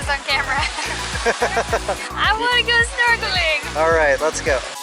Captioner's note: laughter